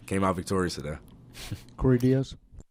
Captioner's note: chuckles